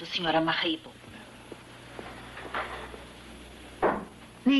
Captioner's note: door slams